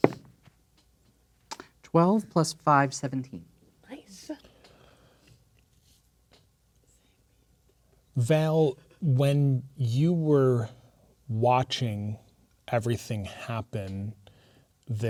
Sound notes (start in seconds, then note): 0.0 dice rolling; 6.7 whispering